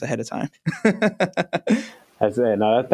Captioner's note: laughs